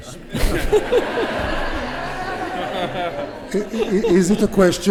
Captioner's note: laughter